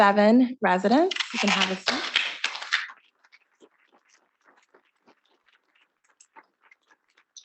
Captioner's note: students clapping